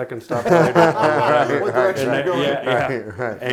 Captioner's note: laughing